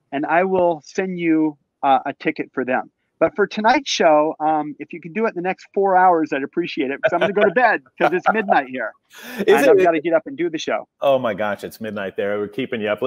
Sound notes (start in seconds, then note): 7.0 laughs